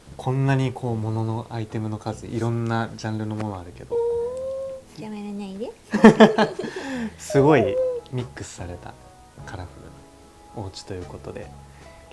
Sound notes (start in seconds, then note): 3.9 baby voice